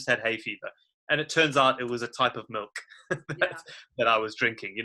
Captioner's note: laughs